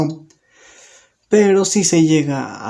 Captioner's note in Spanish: Silencio